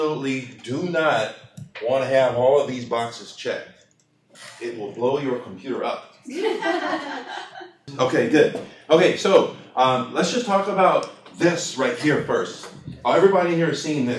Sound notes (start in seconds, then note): 6.2 laughter